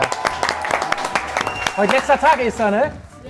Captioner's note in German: Jubel, Applaus